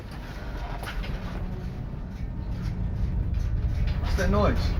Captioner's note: creaking